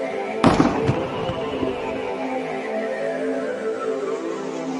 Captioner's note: gun firing